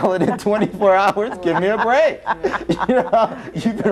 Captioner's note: laughs